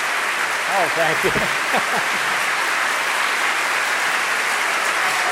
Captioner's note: laughs